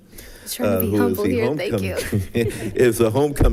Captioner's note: people chuckling